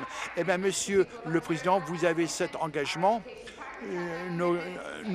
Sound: applause

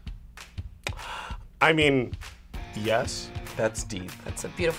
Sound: gasps

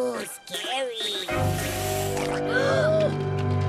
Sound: hisses and gulps; gasp

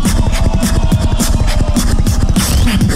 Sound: crowd cheering

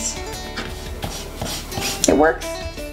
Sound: eraser rubbing

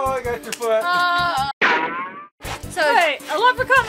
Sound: rubber band sound effect

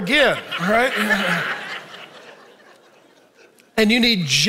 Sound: audience laughing

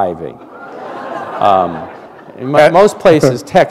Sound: laughter

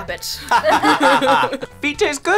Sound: laughing

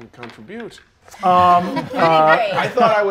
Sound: players laughing

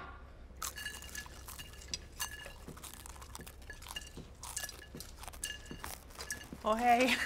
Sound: crunching

